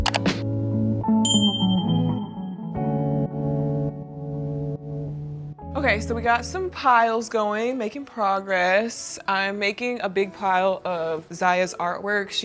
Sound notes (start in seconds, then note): 0.0 mouse clicks; 1.2 bell chimes